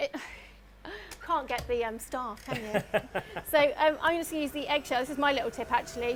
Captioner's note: laughs